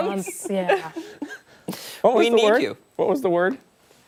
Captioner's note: laughter